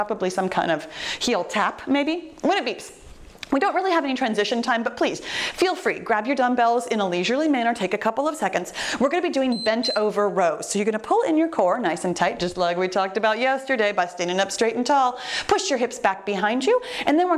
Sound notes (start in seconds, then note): 9.4 timer beeps